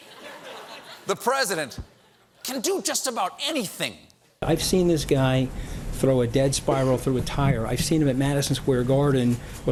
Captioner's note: laughter